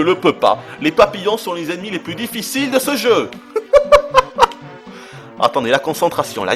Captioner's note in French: rires